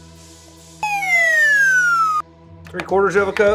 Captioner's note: slide whistle